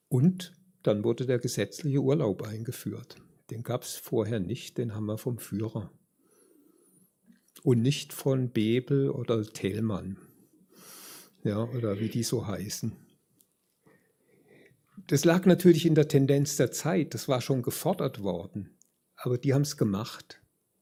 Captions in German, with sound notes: Und dann wurde der gesetzliche Urlaub eingeführt. Den gab's vorher nicht, den haben wir vom Führer und nicht von Bebel oder Tmann, [schnauben] ja, oder wie die so heißen. Das lag natürlich in der Tendenz der Zeit. Das war schon gefordert worden, aber die haben es gemacht.